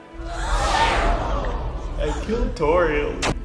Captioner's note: crowd gasps